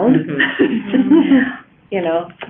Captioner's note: laughing